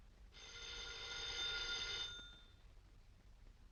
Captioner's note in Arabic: رنين الهاتف